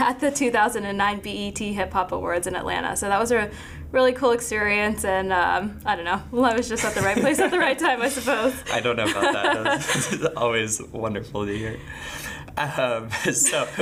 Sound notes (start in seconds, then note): 6.8 laughing